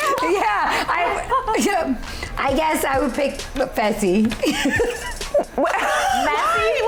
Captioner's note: laughing